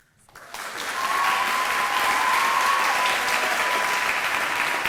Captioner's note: audience applauding